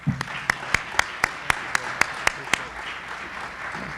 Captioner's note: group applauds